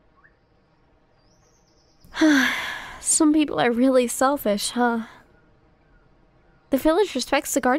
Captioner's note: sigh